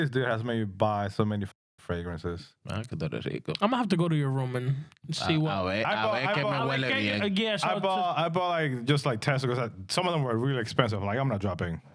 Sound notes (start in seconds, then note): 2.8 speaking In Spanish; 7.1 speaking In Spanish